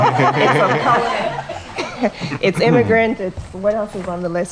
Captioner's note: laugh